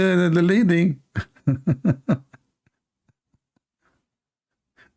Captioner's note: Ketawa